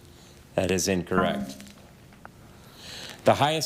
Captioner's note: buzzer buzzes